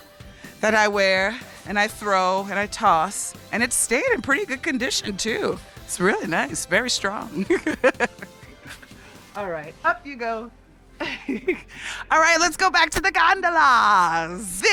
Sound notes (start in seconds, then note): 7.2 laughs